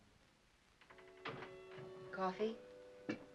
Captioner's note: door closes